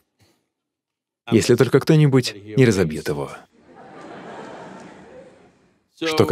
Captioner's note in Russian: Смех